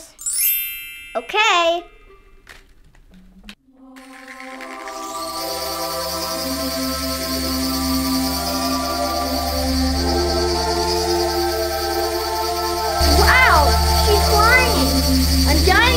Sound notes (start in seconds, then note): 0.0 bells chime; 3.7 angelic choral music; 4.3 pixie whirs